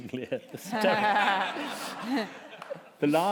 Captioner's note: laughter